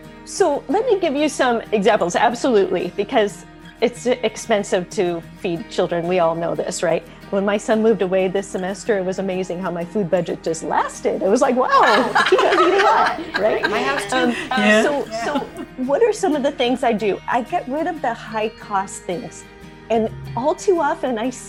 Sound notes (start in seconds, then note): 11.7 all laughing